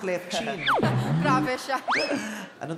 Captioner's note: laugh